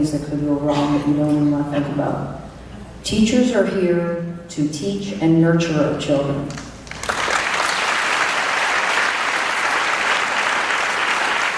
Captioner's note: clapping